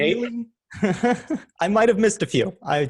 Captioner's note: person laughs